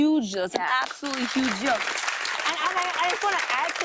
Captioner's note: applause